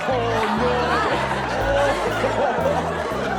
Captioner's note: laughter